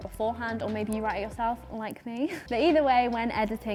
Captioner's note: chuckling